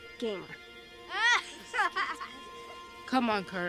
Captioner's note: kids laughing